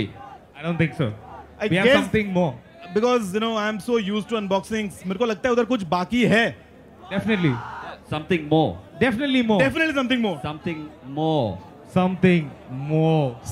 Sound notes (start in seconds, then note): 5.4 non-english speech